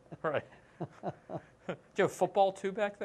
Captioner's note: laughter